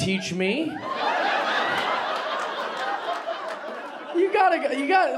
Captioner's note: audience laughing